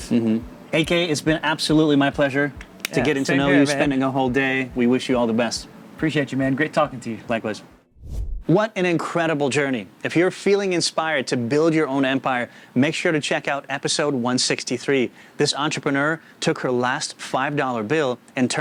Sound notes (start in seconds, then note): 7.9 air whooshing